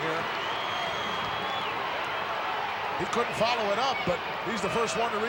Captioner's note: applause